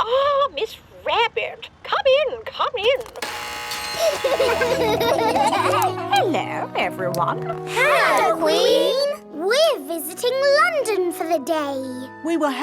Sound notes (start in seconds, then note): 2.9 gates buzzing; 3.9 kids laughing